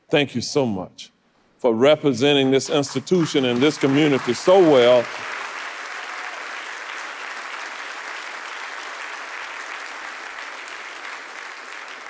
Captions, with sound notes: Thank you so much for representing this institution and this community so well. (audience applauding)